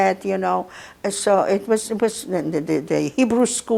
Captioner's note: mumbling